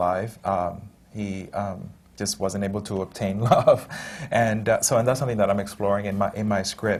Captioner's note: laughs